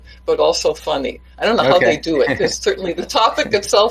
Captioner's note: laughs